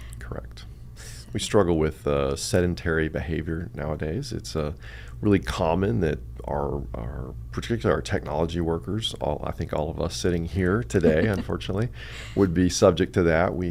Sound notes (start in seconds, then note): 11.0 laughs